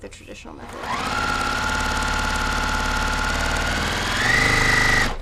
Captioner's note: machine whirring